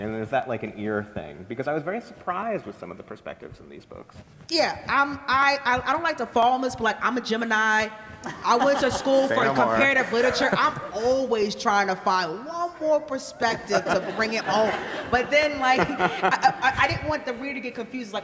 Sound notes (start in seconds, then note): 13.4 laughter